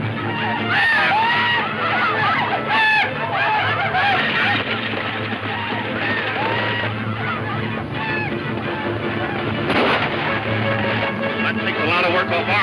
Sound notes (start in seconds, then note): 0.9 riders shouting; 9.6 gunshots banging